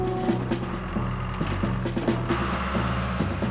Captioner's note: engine Running